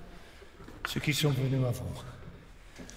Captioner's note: speaks in French